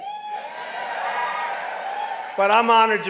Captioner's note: applause